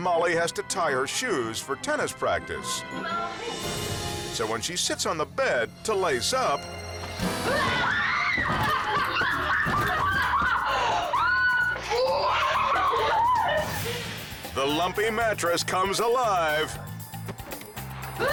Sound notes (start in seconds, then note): 3.5 suspenseful music continues; 7.4 screams; 8.6 laughs; 16.6 suspenseful music continues; 18.2 screams